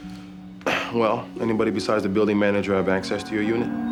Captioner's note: clears throat